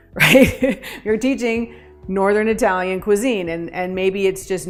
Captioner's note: chuckles